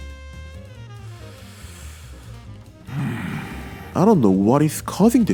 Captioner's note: inhales, then groans